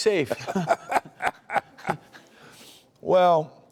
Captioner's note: laughs